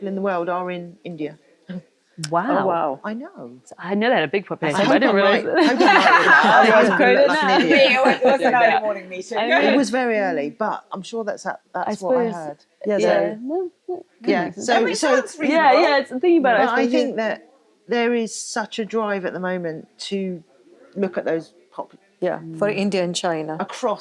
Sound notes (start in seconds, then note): 5.4 all laughing